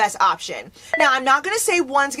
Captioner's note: bell rings